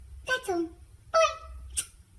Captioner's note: smooch